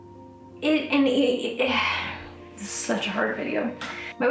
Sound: sighs

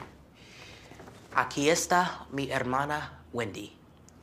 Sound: speaking spanish

